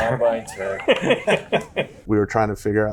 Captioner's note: all laughing